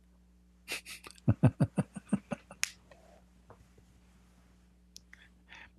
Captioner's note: Ketawa